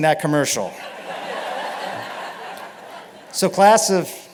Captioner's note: laughter